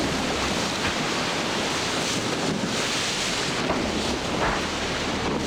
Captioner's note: splashing and ice breaking